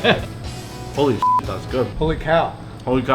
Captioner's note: beep